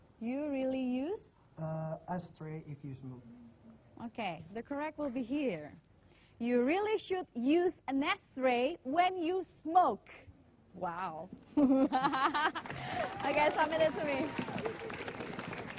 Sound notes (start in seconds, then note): 11.5 laughter; 12.4 applause